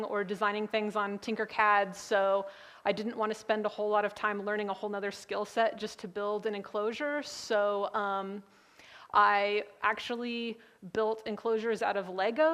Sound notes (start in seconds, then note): none